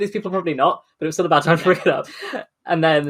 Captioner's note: laughing